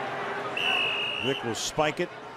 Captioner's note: whistle blows